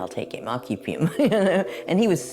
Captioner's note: chuckles